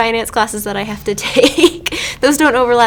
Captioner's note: chuckles